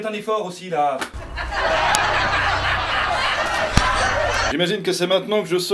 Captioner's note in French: rires public de comédie